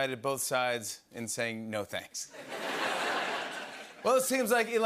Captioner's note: laughter